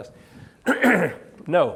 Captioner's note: clears throat